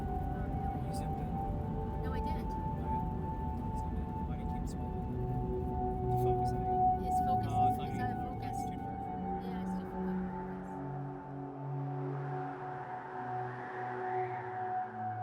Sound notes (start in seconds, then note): 10.0 wind whooshing